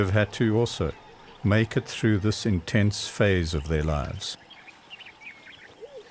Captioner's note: animals calling